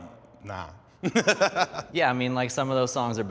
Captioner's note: laughs